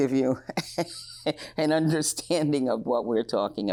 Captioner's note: chuckles